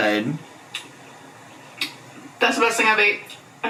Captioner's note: lips smacking